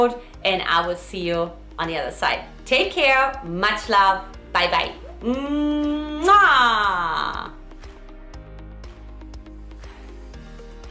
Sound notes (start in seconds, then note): 5.0 smooches; 7.2 light contemporary music